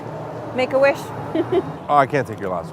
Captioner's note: chuckles